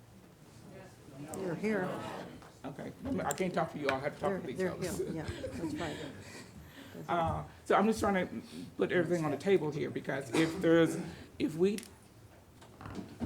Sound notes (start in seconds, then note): 1.1 crowd murmurs